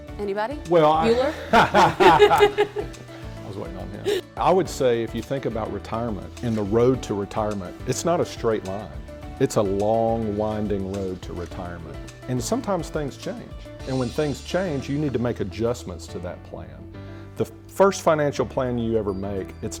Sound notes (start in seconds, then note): 0.9 laughing